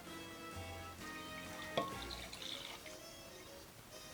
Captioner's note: liquid pouring